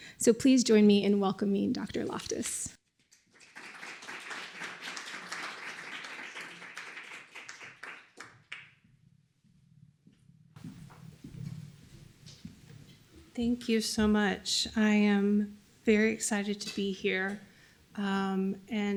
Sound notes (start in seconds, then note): 3.1 applause